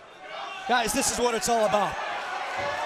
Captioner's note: crowd chatter